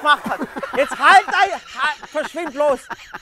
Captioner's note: Lachen